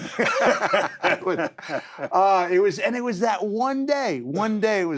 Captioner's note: laugh